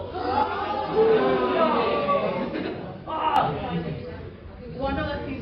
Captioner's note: more "oh no" noises